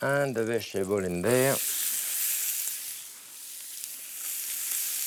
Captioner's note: sizzling